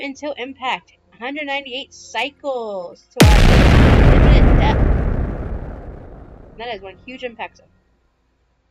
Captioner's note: big booooommmmm